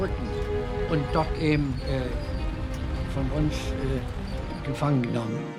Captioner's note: speaking in foreign language